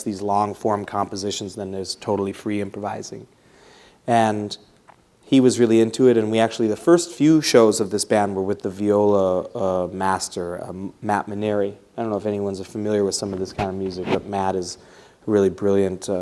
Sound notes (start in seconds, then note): none